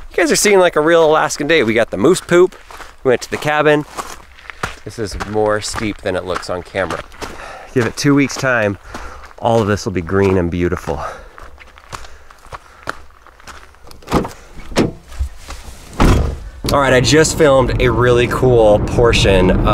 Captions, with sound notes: Kids are seeing like a real Alaskan day. We got the moose poop. We went to the cabin. This is more steep than it looks on camera. Give it two weeks time, all of this will be green and beautiful. (car door opening and shutting) Alright, I just filmed a really cool portion